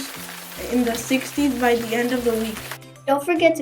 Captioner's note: rain sounds